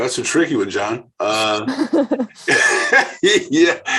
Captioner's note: laughing